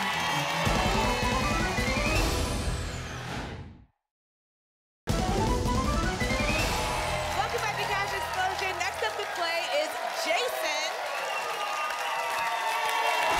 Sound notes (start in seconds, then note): 0.0 applause and cheering cont; 3.2 whoosh; 6.3 applause and cheering; 11.4 applause and cheering cont